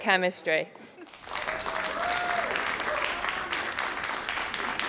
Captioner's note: crowd applauding